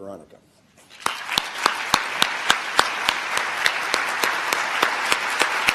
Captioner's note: applause